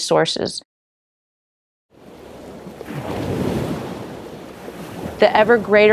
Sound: crashing wave

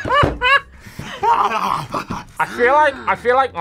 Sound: yells; laughs

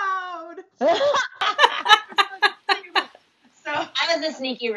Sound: laugher

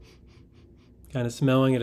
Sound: hasty sniffing

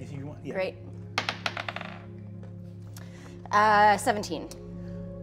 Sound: dice rolling

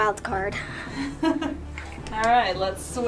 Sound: laughs

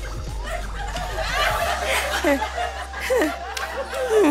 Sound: panting

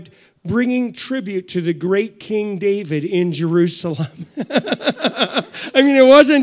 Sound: laughs

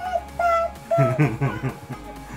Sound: laugh

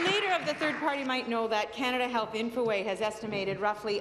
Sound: applause

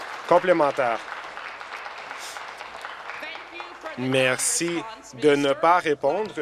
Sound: applause

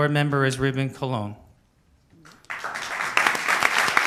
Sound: applause

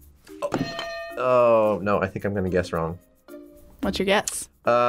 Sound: bell rings

